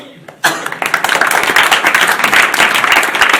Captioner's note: applause